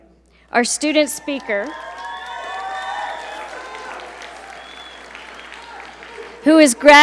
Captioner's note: audience cheer and applaud